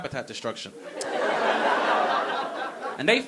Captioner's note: audience laughing